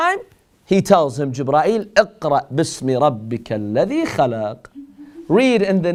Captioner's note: Arabic